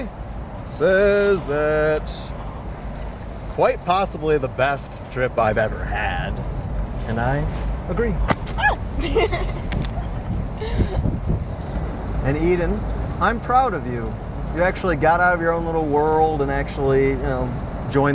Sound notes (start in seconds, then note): 8.9 Eden laughs